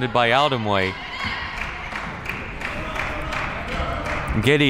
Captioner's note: crowd clapping